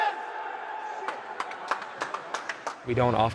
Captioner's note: players applaud